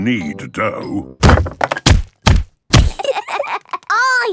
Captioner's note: banging